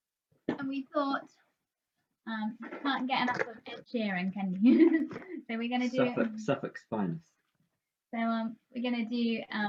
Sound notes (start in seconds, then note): 4.6 laughter